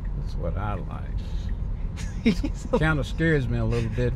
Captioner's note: laughs